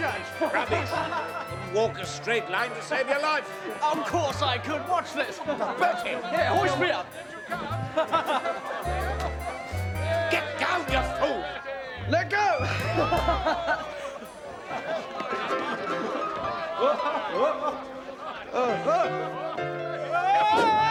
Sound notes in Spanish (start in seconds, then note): 8.4 riendo; 13.4 riendo; 14.2 multitud riendo; 15.6 Bertie gritando